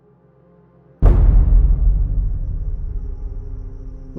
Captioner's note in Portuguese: impacto